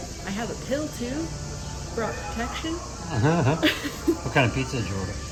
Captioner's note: laughing